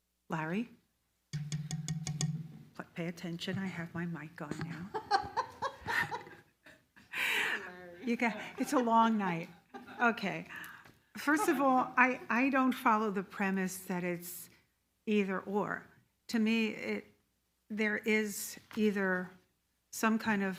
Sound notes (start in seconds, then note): 4.6 laugh loudly